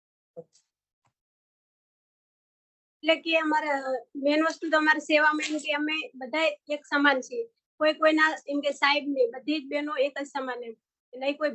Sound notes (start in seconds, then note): 2.7 non-english speech